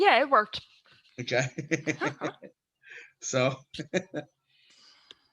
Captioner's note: laughs